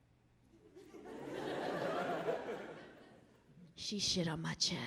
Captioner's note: audience laughing